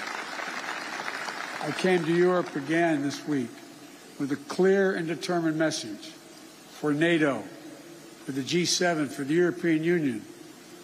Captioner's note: applause